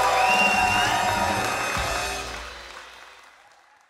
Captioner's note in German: Jubel, Schlussakkord